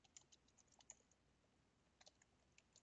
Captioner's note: typing